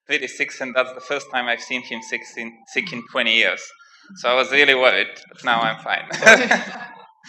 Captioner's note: laughs